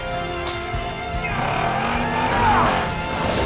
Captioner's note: grunting